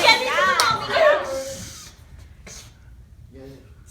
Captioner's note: sniffing